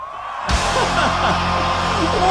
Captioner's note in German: lacht